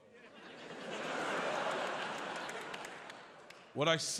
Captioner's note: audience laughs